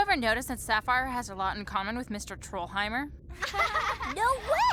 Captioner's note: laughing